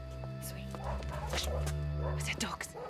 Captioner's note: dogs barking